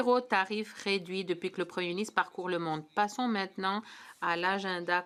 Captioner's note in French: voix de l'interprète